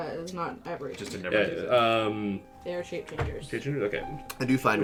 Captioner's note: book floomphs closed